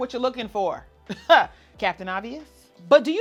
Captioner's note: chuckles